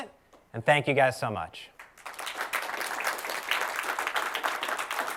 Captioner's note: applause